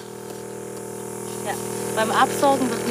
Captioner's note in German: Rattern, Zischen